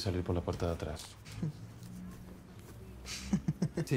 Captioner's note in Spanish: risas